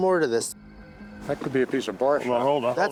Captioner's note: overlapping chatter